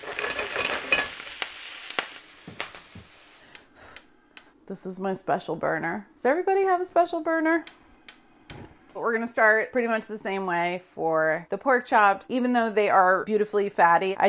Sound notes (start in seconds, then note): 0.0 sizzling; 8.0 oven igniting